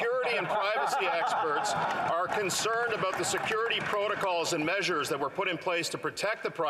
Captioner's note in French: voix de l'interprète